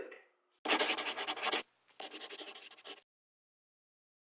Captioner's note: scribbling